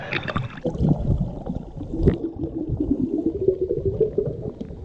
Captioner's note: water bloops